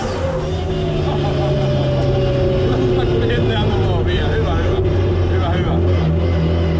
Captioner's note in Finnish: nauraa